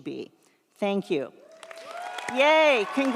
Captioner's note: audience applauds; audience cheers